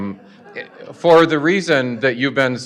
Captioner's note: audience chuckling